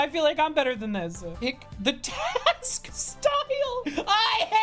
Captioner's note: laughing